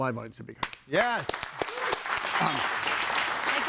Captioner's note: audience applauding